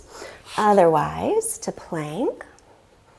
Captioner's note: deeply inhaling